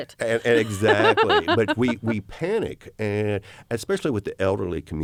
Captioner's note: laughter